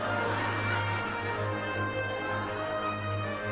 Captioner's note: audience laughing